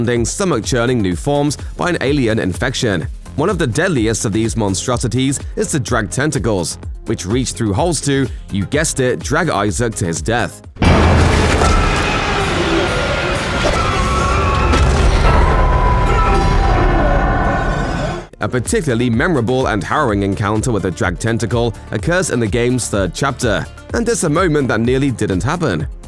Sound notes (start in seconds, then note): 11.3 scream